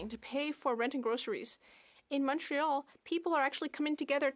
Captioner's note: speaking French